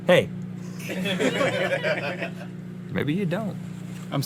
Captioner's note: crew Laughing